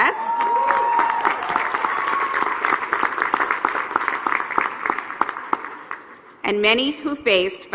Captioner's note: applause